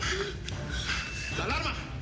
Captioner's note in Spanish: alarma